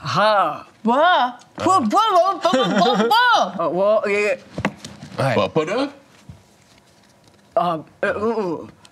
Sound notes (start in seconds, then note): 2.7 excited grunting